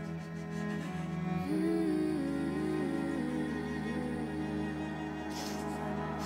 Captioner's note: somber music continues; Keely sobs